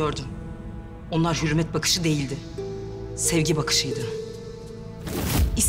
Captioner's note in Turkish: Sırma dış ses